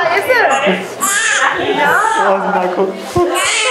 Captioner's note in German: Schreien